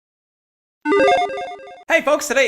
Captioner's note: logo beeps